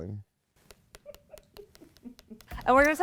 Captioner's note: Bob's nail tapping